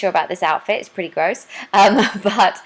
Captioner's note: laughs